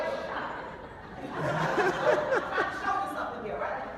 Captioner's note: laughing